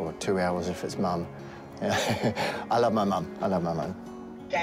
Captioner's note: chuckles